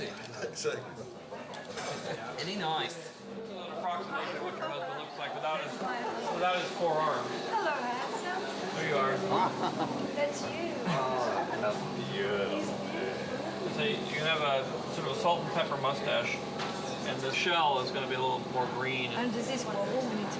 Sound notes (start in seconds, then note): 9.2 laughing